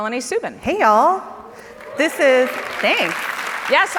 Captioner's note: audience claps